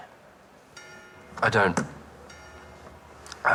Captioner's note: bell rings